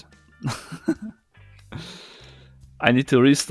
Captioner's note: chuckles